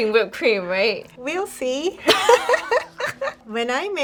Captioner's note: laughs